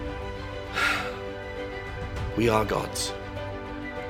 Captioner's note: sighs